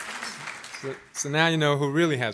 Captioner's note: applause